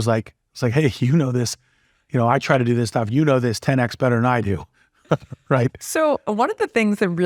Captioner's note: laugh